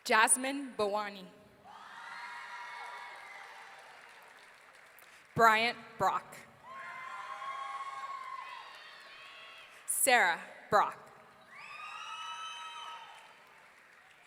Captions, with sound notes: Jasmine Bowannie. (audience cheering) Bryant Brock. (audience cheering) Sarah Brock. (audience cheering)